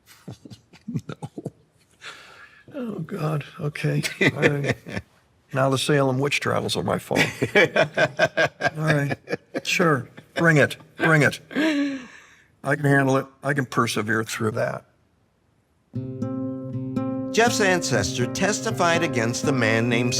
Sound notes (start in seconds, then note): 0.0 chuckling; 4.0 laughs; 7.3 laughs